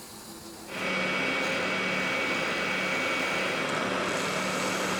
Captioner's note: drum sander hums